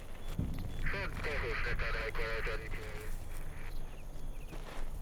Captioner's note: radio chattering